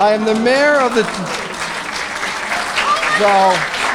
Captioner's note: applause